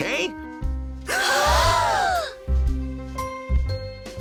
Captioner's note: all gasp